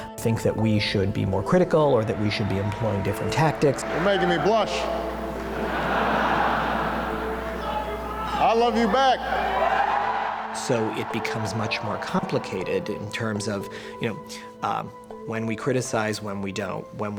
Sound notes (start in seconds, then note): 4.9 laughter